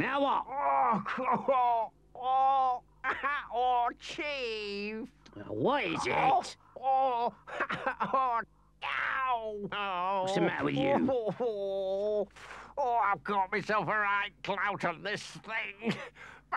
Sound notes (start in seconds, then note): 0.4 Henchman Weasel groans; 5.9 Henchman Weasel groans; 11.5 Henchman Weasel grumbles